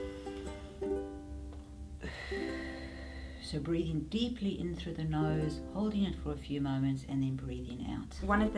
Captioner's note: breathing